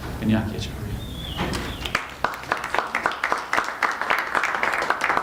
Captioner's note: applause